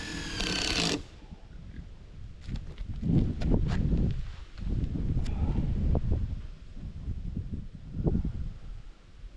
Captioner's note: wind blowing